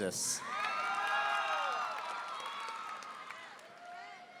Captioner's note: audience cheering